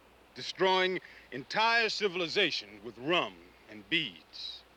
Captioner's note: none